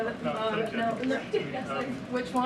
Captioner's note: laughs